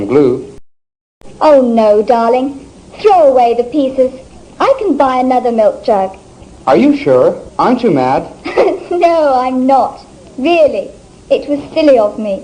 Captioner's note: laughs